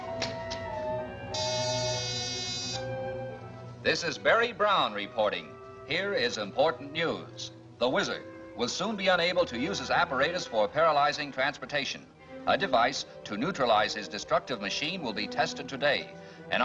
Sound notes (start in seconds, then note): 1.3 buzzer sounds